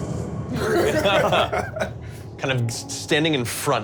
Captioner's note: laughing